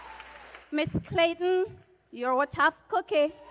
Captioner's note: cheers and applause